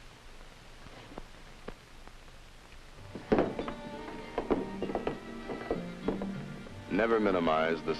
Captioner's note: phone dangles from its cord and knocks against the wall